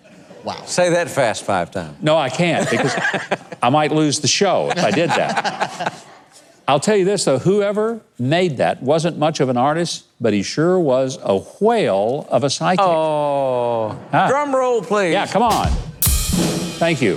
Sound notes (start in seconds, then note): 0.3 audience laughing; 4.6 both laughing; 15.5 drum rolls